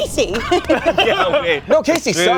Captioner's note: everyone laughs